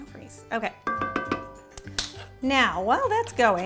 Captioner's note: hitting